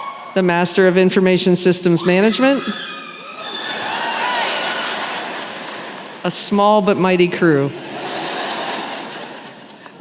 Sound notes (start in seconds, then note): 3.9 cheering; 7.8 laughter